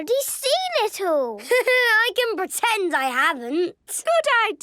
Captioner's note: Danny laughing